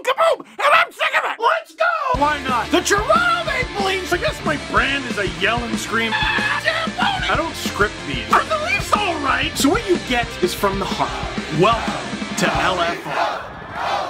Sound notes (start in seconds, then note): 1.7 rock music plays throughout intro; 6.1 screams